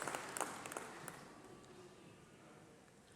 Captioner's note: applause